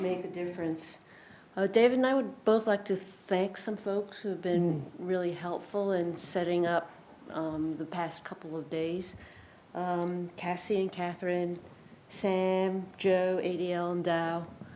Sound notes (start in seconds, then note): none